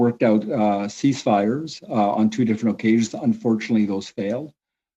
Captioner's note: speaking French